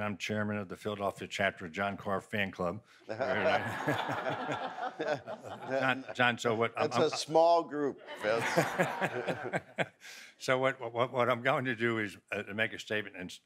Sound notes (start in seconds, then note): 3.1 audience laughs